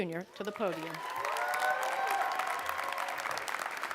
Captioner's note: applause